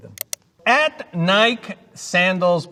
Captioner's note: mouse clicking